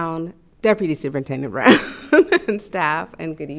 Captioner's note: laughs